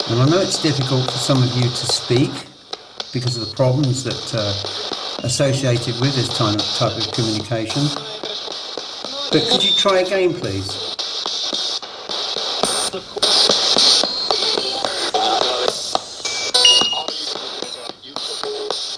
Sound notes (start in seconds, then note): 14.6 radio babbles